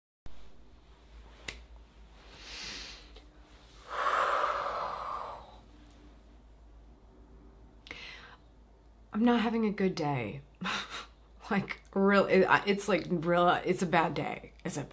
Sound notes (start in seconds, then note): 3.6 deep breath